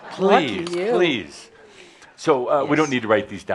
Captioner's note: laughter